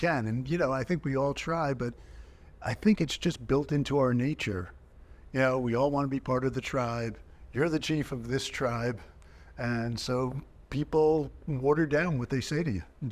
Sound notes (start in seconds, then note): none